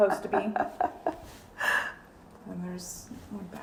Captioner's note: chuckling